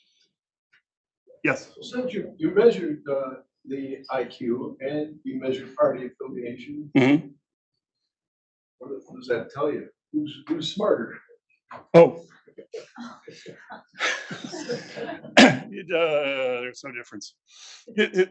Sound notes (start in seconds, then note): 12.7 attendees laughing; 12.7 laughs